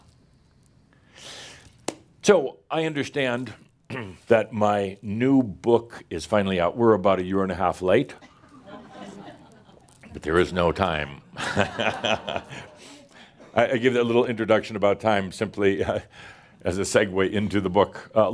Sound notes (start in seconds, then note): 8.3 some laughter; 11.2 Adamus chuckles